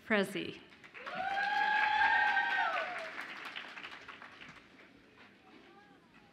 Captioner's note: audience applauds and cheers